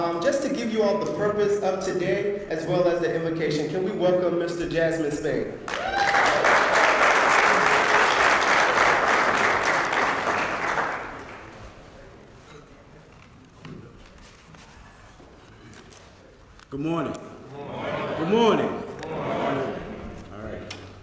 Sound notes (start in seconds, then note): 10.0 applause